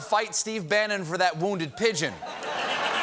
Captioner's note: laughter